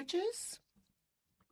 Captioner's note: speaking French